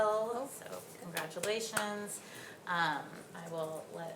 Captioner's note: claps